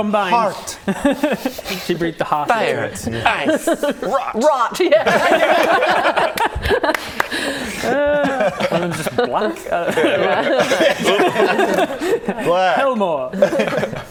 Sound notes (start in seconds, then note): 5.0 giddy laughter